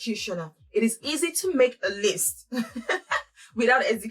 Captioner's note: laughs